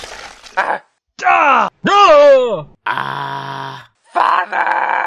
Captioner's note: all make noises of surprise